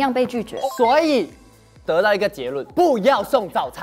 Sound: confident

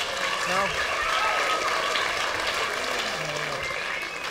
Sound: applause

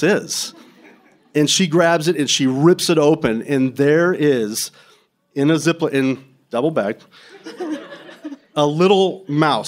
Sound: laughter

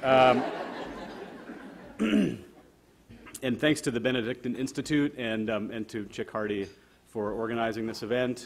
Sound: audience laughter

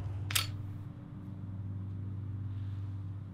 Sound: lighter Spark

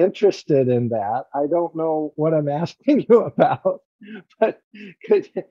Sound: laughter

